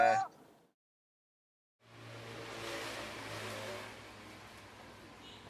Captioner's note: street noise